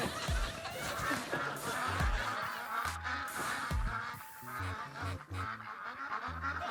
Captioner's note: ducks quacking